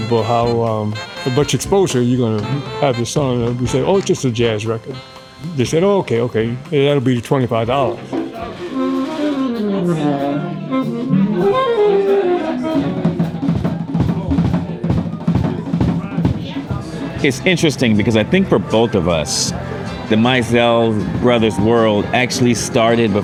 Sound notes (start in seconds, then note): 8.3 warming up; 12.2 musicians talking